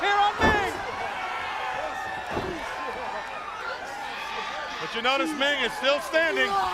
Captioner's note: crowd chatter